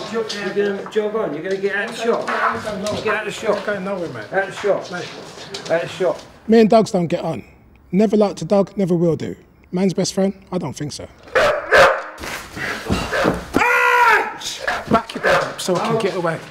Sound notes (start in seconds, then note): 13.7 shouting